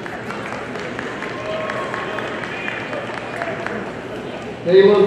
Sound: audience applauding

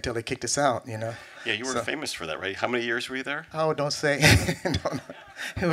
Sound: laughs

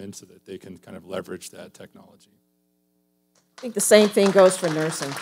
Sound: audience applauding

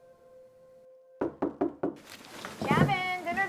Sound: knocking

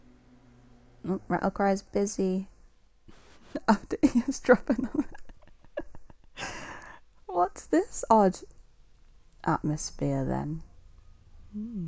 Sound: laughs

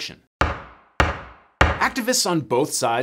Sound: gavel thudding

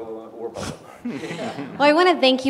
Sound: laugh

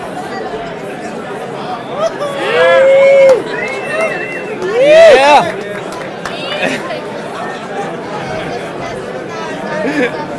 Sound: cheers and applause

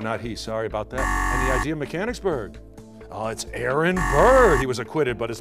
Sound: buzzer

